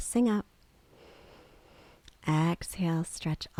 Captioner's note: inhales